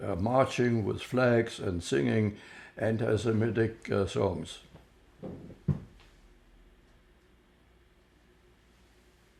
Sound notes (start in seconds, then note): 4.7 pauses 6 seconds